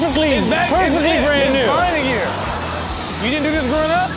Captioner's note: audience laughs